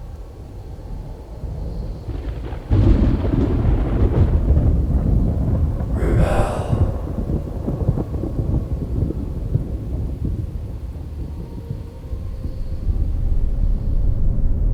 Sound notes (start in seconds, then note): 4.0 thunder crashing